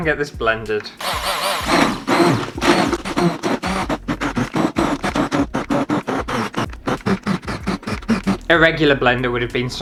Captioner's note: blending Noises